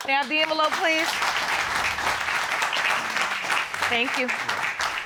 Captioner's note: audience applauding